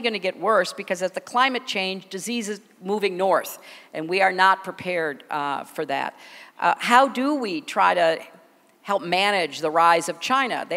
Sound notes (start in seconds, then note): none